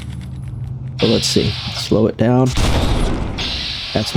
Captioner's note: gun fires